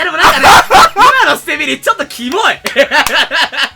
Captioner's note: laugh